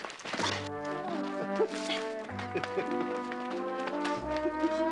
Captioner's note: chuckles